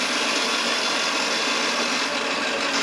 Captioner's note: mechanical milling noise